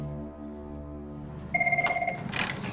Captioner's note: phone rings